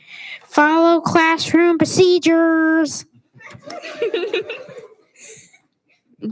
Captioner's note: students giggle